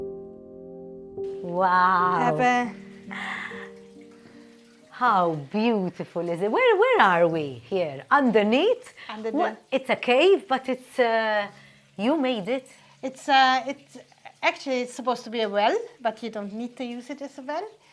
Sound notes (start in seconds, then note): 3.0 gasps; 3.6 gentle water flowing